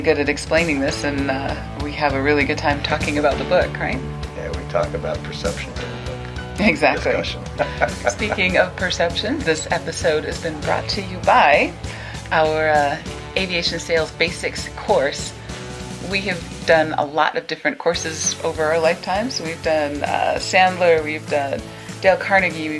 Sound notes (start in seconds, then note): 7.5 laughs